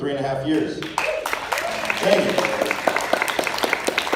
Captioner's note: applause, cheers